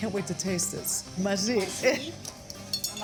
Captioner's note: speaking greek